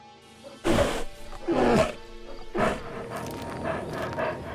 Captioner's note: bear growling